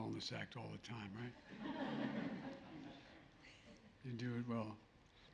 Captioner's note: laughter